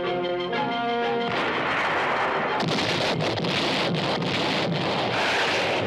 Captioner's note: artillery firing